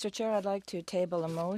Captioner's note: speaking French